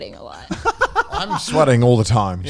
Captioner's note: laughing